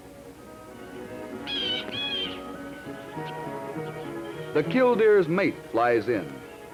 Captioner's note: blue Jay calling